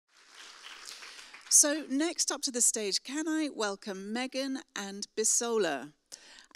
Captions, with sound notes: (audience clapping) - So next up to the stage can I welcome Megan and Bisola.